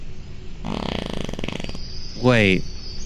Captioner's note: farting